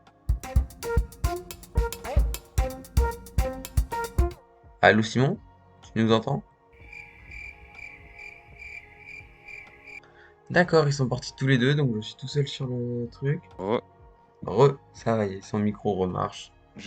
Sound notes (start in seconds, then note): 6.8 crickets chirping